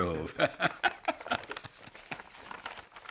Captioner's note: laughs